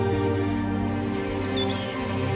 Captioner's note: birds chirping